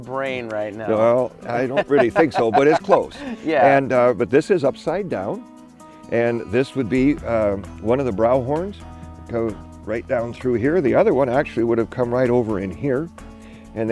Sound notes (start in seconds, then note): 5.2 laughing